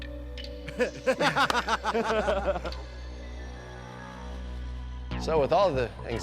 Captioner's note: laughing